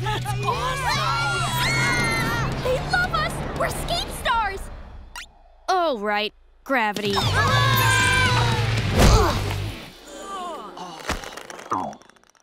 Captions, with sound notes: That's awesome! They love us, we're skate stars. Oh right, gravity. [screaming]